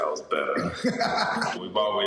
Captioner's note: laughter